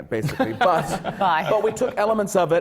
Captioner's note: laughter from the panel